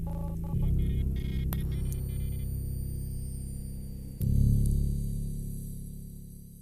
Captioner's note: interference